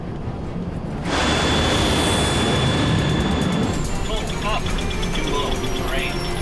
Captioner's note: intense music; jet roaring